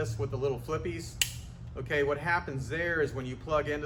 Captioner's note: cover snapping